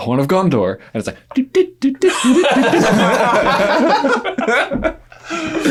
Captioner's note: imitating instrument